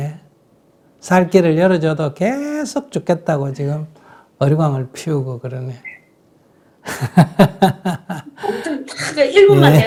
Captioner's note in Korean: 웃음